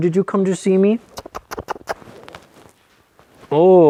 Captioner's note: kissing